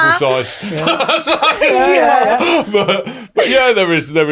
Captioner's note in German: lacht